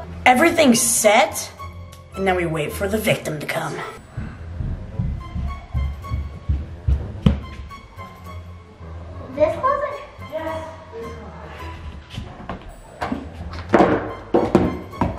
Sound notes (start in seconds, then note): 3.6 footsteps; 6.4 suspenseful music; 12.1 suspenseful music